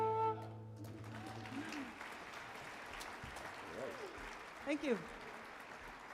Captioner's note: audience applauds